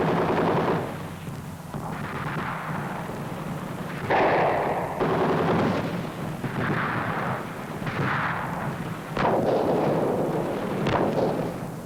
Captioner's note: rapid gunfire